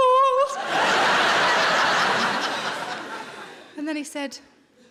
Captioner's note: audience laughing